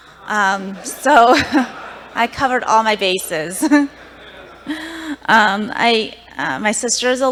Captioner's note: laughter